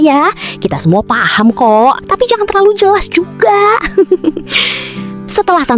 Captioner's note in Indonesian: tertawa